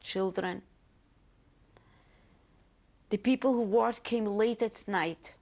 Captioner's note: pauses for 3 seconds